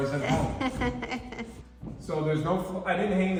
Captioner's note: laughs